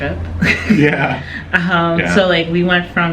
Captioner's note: laughing